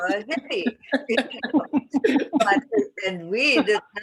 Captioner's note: laughter